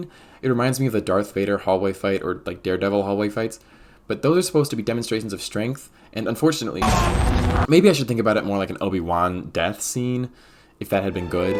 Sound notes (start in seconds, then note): 6.8 unaliving sounds